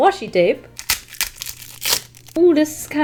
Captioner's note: packaging ripping